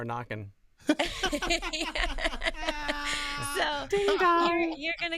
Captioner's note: both laughing